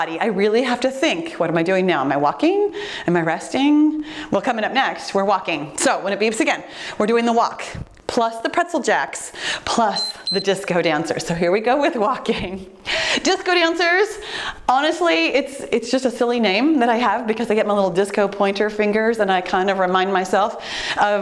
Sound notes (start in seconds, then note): 9.9 timer beeps; 12.1 giggling